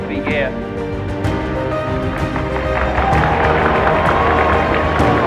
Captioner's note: applause